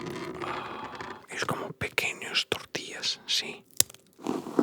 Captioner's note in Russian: говорит на испанском